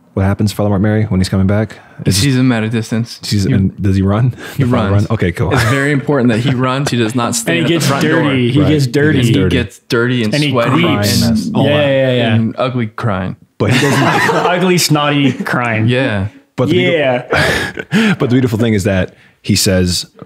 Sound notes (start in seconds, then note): 13.6 all laughing